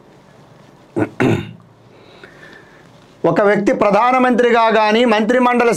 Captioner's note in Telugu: గొంతు సవరించుకోవడం